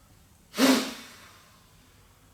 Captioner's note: sharp exhale